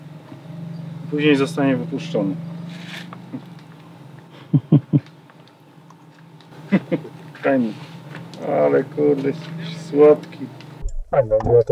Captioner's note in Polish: śmiech